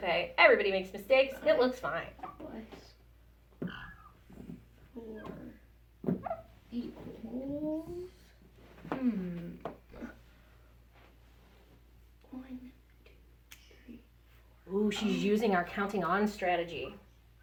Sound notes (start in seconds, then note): 2.5 murmurs